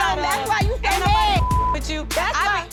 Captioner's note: beep